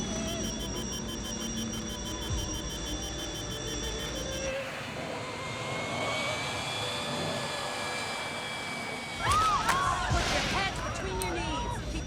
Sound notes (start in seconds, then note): 0.0 alarm beeping; 9.2 screaming